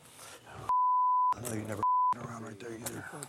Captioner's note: sighs